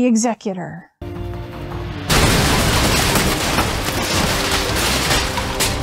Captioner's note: explosion